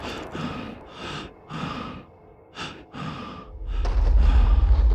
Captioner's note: gasping